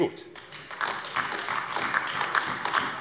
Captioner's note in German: Beifall AfD